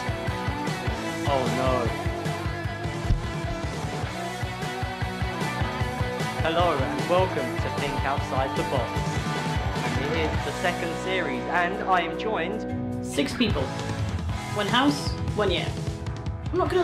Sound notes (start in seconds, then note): 2.3 upbeat music; 9.2 audience cheering